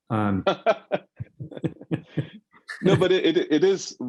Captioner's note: laughing